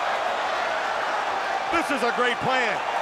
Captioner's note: crowd cheering